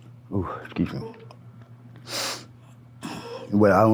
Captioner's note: sniffles